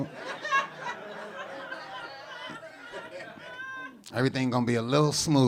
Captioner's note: audience laughing